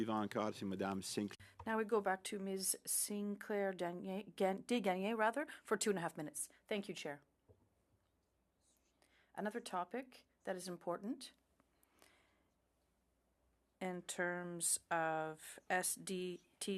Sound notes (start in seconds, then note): 6.9 speaking French